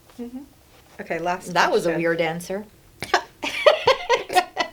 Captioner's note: laughs